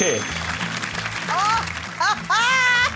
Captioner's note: bell rings